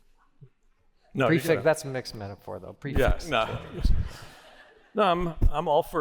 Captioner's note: laughter